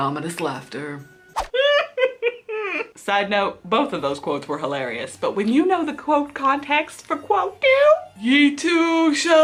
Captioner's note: laughs